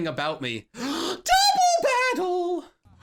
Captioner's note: gasps